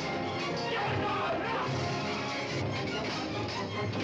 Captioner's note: ruffians shouting